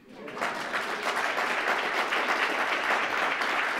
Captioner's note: applause